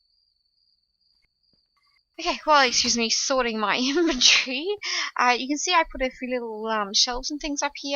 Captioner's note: laughs